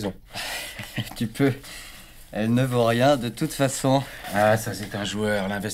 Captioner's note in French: Rire